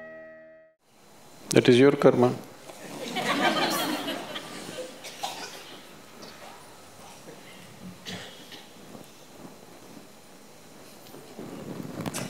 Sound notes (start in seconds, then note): 6.3 laughter